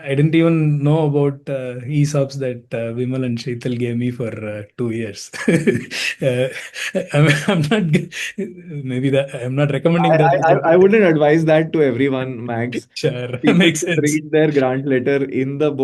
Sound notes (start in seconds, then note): 5.1 laughing; 12.7 chuckling